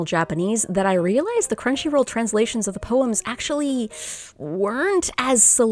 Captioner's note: awkward breath in